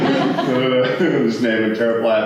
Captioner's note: laughter